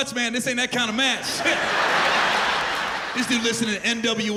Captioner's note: laughter